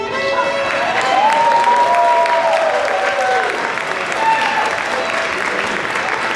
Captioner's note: cheers and Applause